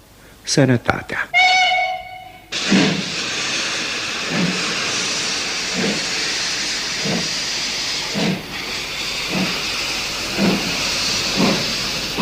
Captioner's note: sound of steam train departing